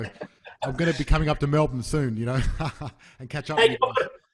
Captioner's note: chuckles